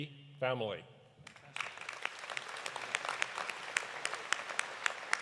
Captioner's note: audience applauding